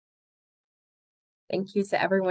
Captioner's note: silence